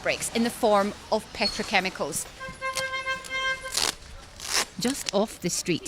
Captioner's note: horn honking